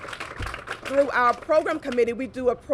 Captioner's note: applause